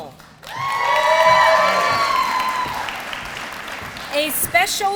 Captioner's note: applause